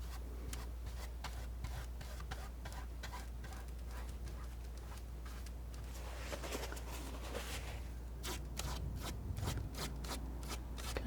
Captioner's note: scratching